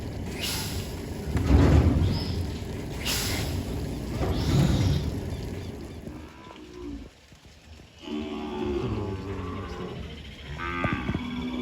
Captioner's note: cattle mooing